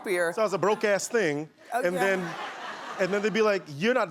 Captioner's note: laughing